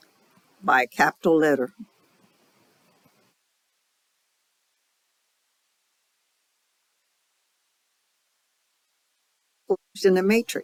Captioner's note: 7-second silence